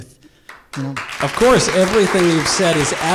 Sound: audience applause

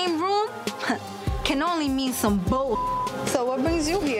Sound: beep

